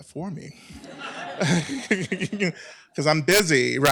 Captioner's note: laughter